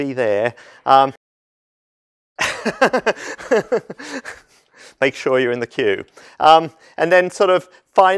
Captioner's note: laugh